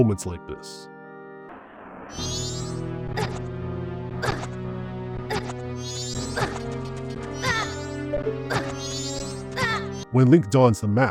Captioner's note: Link gasps and yells in pain